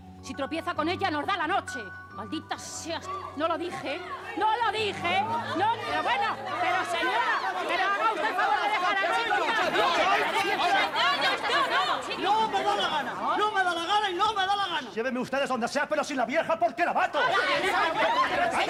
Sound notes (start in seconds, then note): 2.6 general commotion; 6.0 general confusion; 7.7 yells and struggles; 17.2 general confusion